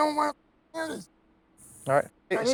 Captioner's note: muted